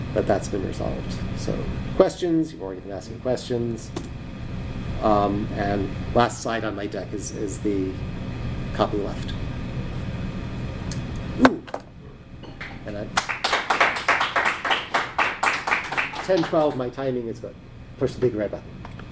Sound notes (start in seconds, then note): 13.1 applause